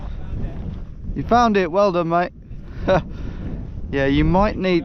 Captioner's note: laughs